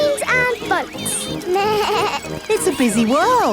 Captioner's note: bleats